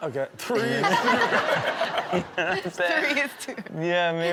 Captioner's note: audience laughs